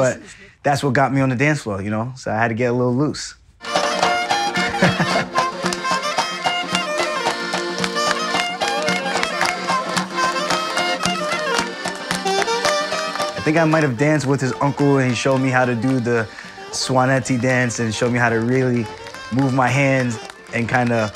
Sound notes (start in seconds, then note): 4.8 laughing